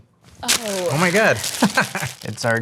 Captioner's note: laughs